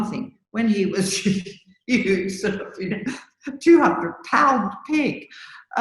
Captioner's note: laughs